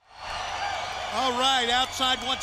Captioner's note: crowd cheering